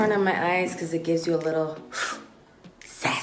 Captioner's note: inhales